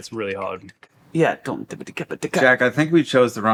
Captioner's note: vocalizing bass beats